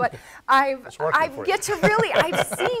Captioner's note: laughs